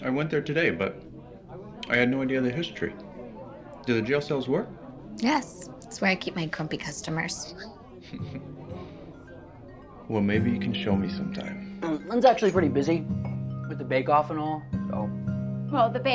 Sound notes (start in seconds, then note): 8.1 Pierce chuckles; 8.2 upbeat music